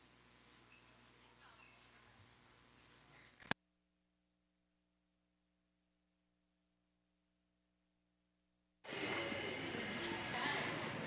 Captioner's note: audience chattering